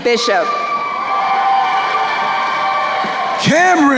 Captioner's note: crowd cheering